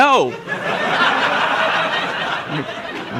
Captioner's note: laughter